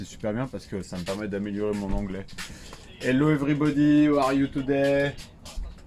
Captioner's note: strong French accent